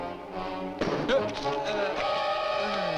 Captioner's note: rock thuds; dramatic orchestral music